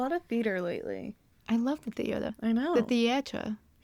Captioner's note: in a french accent